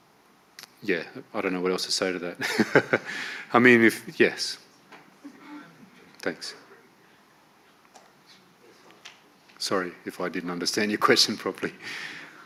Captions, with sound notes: Yeah. I don't know what else to say to that. (laughs) I mean, if... Yes, thanks. Sorry if I didn't understand your question properly.